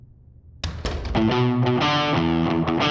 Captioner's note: door closes